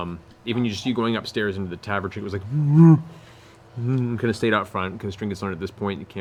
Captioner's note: plaintive bear noises